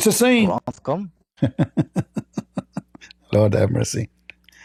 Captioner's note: Ketawa